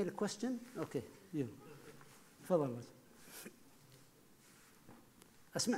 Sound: speaking foreign language

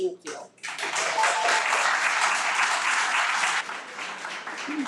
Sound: everyone applauds

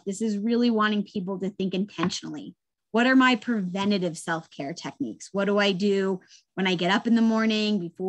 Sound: none

